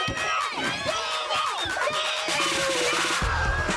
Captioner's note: all cheering